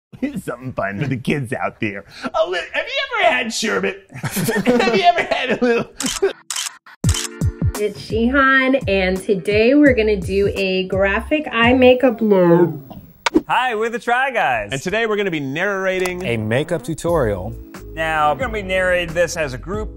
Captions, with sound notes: - Here's some fun for the kids out there. Oh look have you ever had sherbet? [laughing] have you ever had a lil'. [camera click sounds] - It's Jihan and today we're gonna do a graphic eye makeup. - Hi, we're The Try Guys. - And today we're gonna be narrating. - A makeup tutorial. - Now we're gonna be narrating this as a group,